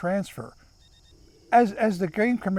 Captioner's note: monitor beeping